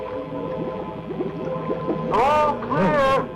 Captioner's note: bubbling